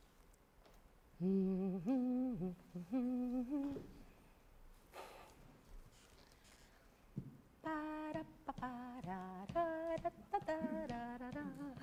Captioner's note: Suzanna hums softly